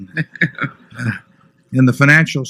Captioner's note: laughter